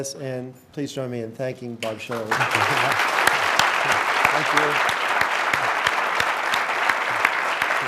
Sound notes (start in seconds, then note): 2.0 audience applauding